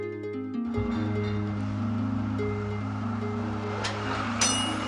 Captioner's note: train rumbling; train bell dinging